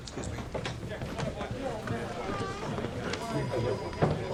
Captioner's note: people chattering; phones ringing